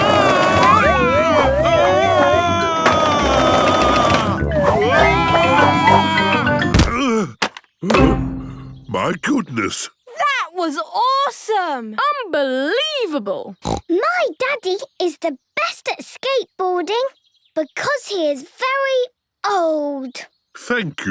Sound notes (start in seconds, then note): 0.2 shouting; 7.9 panting; 13.6 snorts